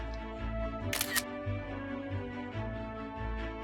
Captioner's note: camera shutter sound